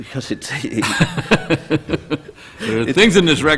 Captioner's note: laughter